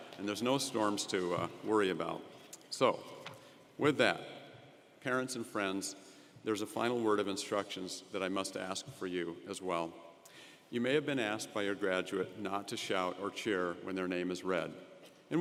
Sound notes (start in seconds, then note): none